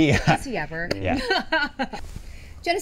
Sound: laughs

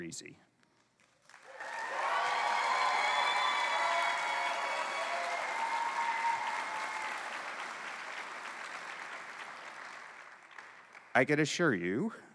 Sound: cheering

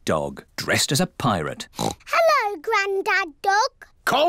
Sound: oinks

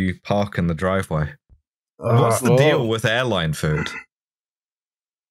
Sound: groan

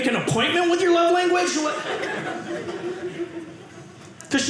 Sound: audience laughing

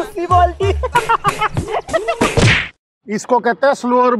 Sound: laughing

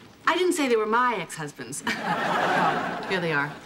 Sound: laughing

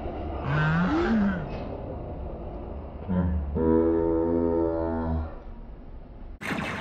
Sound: slow motion sounds

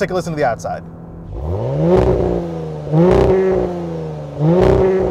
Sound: engine revving

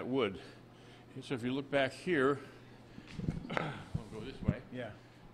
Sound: laughs

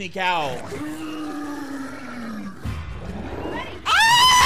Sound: zombie roaring; screaming

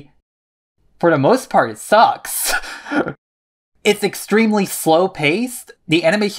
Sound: laughs

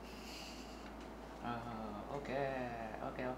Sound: speaking foreign language

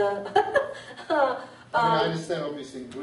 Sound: laughs

